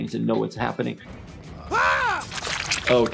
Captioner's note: blood sloshes